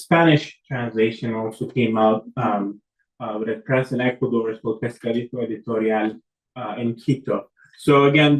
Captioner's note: spanish